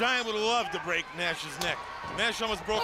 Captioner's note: crowd chatter